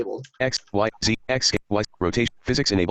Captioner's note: computer Voice